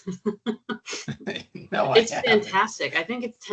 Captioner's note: chuckling